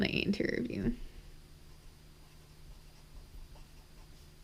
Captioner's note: pen scratching